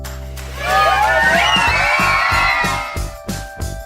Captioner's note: excited Cheers